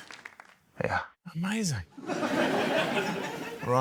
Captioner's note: laughter